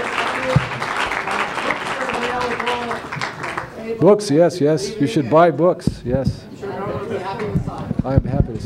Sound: applause

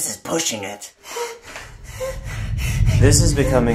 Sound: breathing heavily

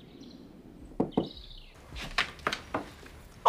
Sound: door knocking

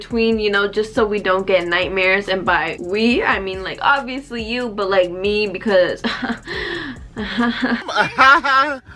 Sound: nervous laugh

